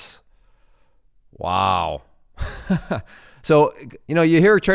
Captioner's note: laughs